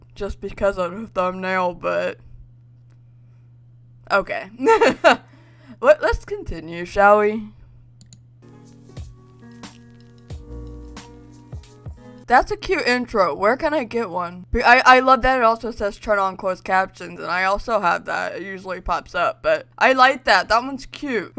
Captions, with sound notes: just because of the thumbnail, but... OK? (LAUGHS) Let's continue, shall we? (PIANO MUSIC) That's a cute intro. Where can I get one? I love that it also says "Turn on closed captions" and I also have that, it usually pops up. But I like that. That one's cute.